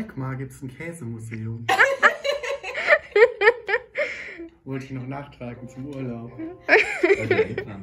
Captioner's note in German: Gelächter